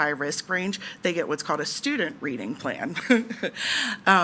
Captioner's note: laughs